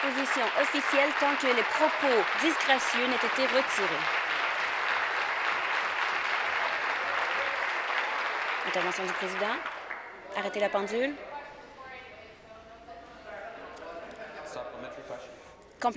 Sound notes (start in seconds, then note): 5.5 applause